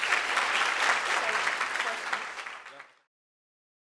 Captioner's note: applause